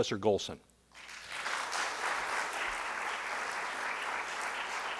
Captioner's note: audience applauding